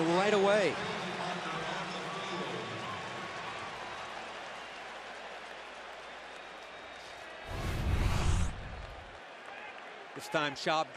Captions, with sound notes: --that comes in right away. [cheering]